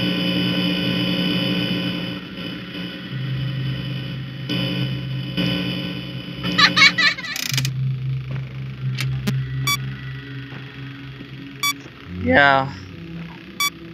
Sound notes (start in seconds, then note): 6.4 BB's gay laugh